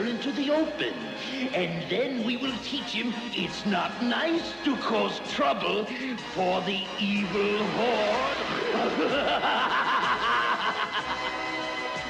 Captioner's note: snort